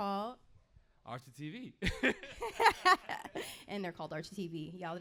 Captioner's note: laughing